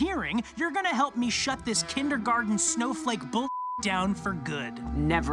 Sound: beep

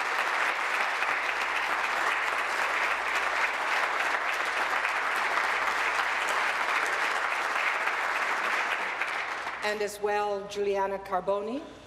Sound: applause

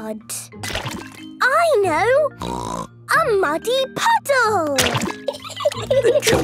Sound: laughing

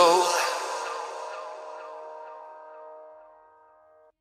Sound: echoing, ends

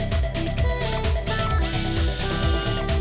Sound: air-powered drill

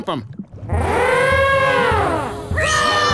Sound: mastodon horns

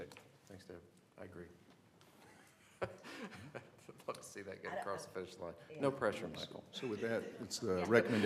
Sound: laughter

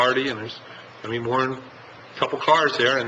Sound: none

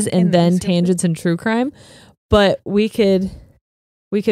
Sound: none

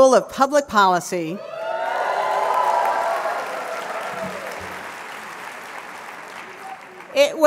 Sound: crowd cheering

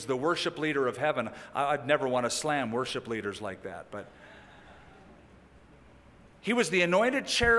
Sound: laughter

